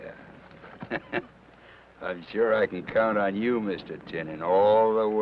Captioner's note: chuckles